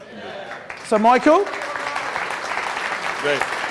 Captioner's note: crowd applauding